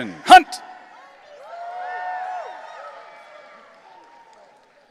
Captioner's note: audience cheering